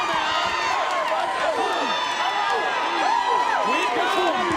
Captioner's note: audience cheering